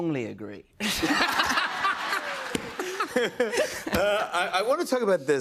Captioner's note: laughter